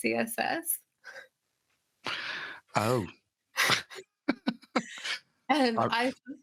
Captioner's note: laughs